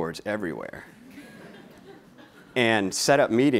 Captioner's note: laughing